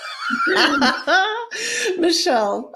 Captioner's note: laughing